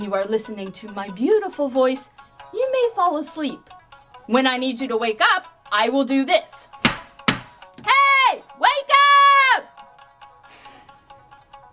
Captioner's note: slap, slap